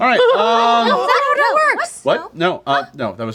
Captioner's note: laughing